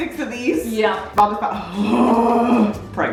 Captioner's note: groaning